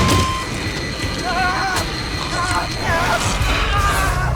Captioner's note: screaming